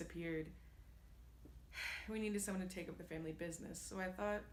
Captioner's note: sigh